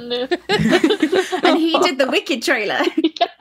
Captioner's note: laughing